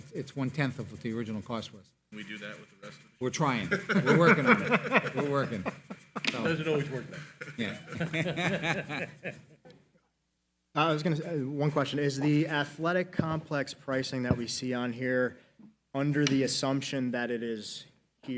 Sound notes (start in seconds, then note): 2.9 faintly speaking; 3.5 laughs; 6.6 laughing